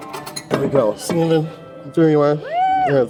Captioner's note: sound of bottle dropping